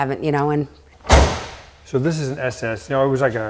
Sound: door thudding

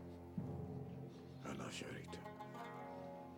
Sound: prays in hebrew

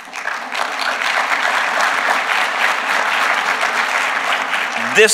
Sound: applause

